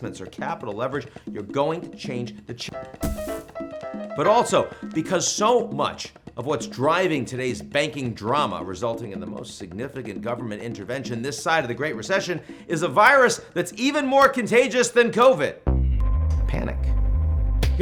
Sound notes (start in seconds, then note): 2.8 comical music; 3.0 body thumps